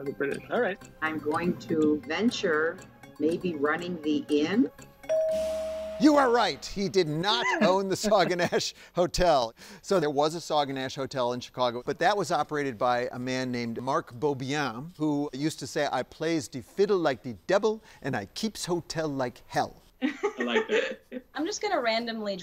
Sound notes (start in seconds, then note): 5.1 bell dinging; 20.0 laughing